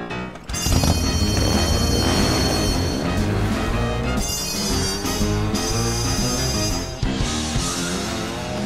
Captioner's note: motorcycle engine revs